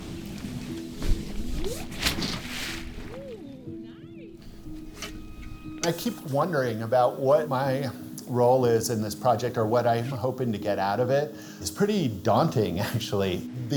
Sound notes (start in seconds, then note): 4.5 pat